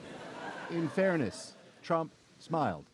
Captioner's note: laughter